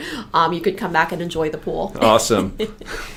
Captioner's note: laughs